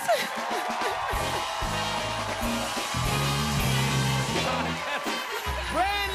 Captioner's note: cheers and applause